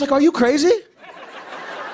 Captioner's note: laughter